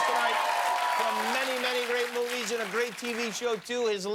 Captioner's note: cheers and applause